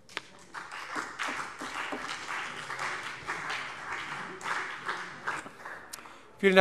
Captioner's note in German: Beifall CDU und BÜNDNIS 90/DIE GRÜNEN